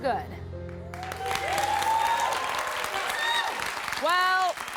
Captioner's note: applause